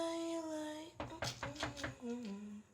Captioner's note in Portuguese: batida na porta